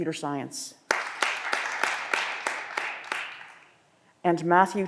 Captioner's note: audience applause